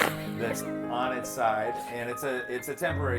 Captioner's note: laughs